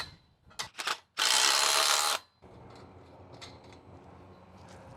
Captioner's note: drill whirring